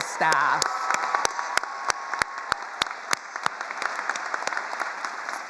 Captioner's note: attendees applauding